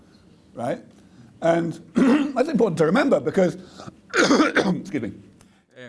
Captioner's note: coughs